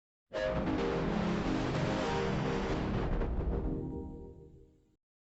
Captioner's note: Anti 3D Giga Windows XP Startup Sound